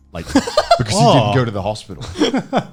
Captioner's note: Alex laughs